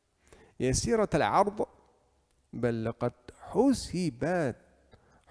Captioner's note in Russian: говорит на арабском